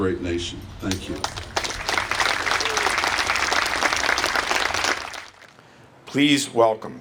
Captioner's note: applause